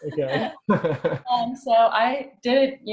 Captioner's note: laughs